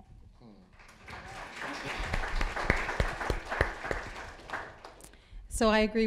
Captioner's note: applause